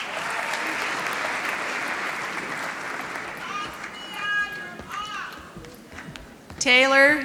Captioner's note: applause